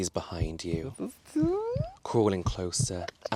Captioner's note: panicking